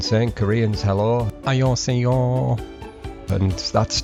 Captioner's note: speaking Korean